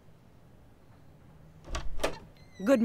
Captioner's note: Door opens